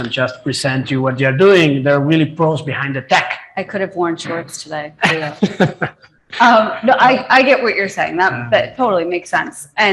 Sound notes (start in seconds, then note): 5.0 laughing